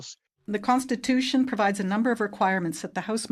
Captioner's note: speaking French